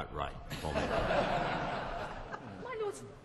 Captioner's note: laughter